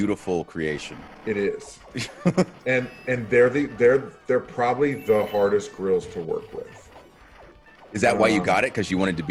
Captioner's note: laugh